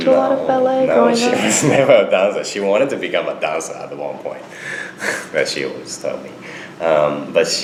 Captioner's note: laughs